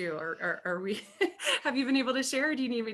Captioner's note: laughs